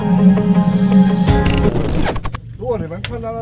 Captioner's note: glitch and Static Sound